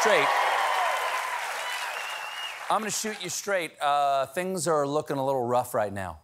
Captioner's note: cheers and applause